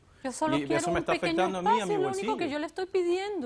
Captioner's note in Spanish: Hablan al unísono